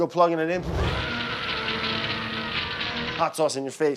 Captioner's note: person screaming